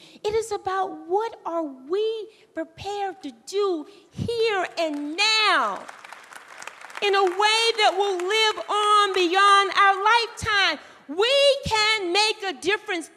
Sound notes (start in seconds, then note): 5.4 applause